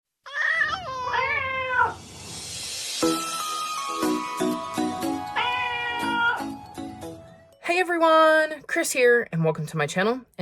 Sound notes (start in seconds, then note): 0.0 meowing Cats